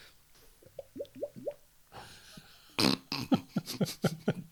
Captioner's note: stupid glugging noises